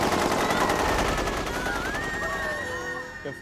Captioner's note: gun Fire Continues; screams